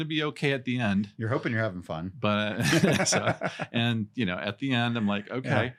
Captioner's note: laughs